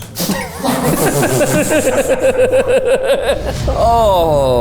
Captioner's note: everyone laughing